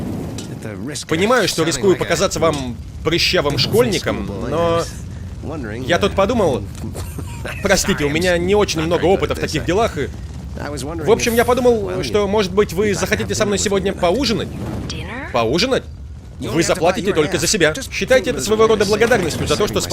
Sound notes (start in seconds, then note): 14.4 sirens approaching